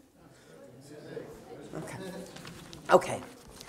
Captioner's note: audience talking